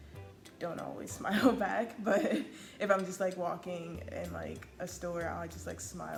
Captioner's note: laughs